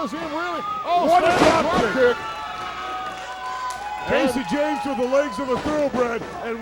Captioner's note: applause